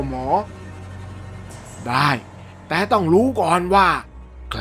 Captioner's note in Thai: none